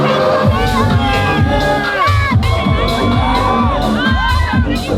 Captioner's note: crowd cheering